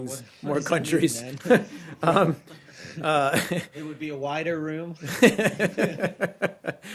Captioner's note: laughter; laughter